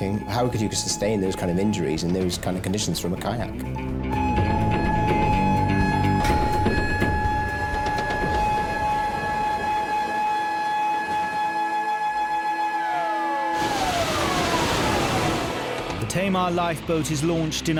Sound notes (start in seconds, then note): 4.7 alarm blaring; 4.7 tense music; 13.5 water splashes